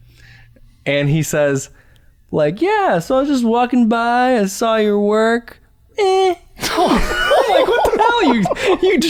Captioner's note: laughter